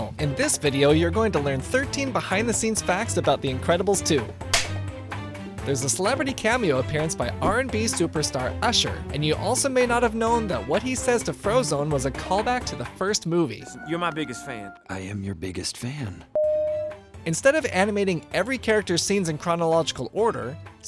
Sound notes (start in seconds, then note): 4.5 film slate sound effect